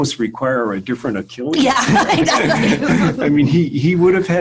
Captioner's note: laughing